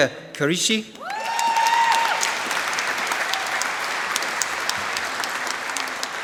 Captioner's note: applause